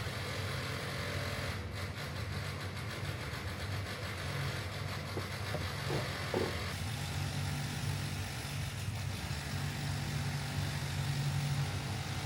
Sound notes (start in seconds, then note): 4.1 feat. Construction noise